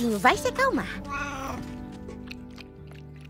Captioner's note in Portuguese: filhote miando